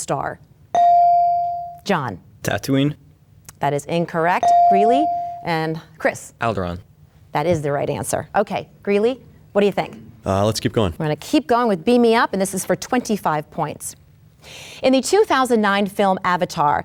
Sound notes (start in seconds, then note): 0.7 bell dings; 4.4 bell dings